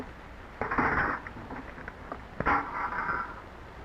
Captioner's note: clattering